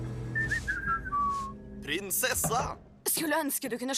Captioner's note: whistles